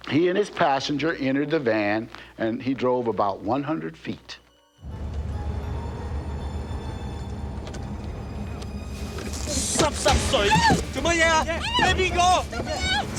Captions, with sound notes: He and his passenger entered the van and he drove about 100 feet. [SPEAKING CANTONESE] Let me out!